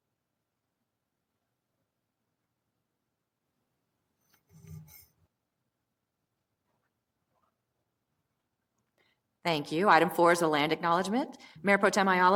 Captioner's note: moment of silence